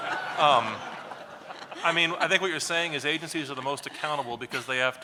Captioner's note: laughs